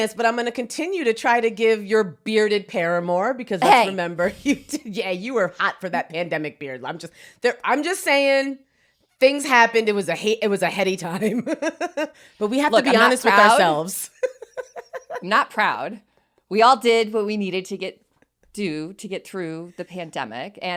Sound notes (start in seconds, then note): 3.6 laughs; 12.6 laughs; 14.5 laughing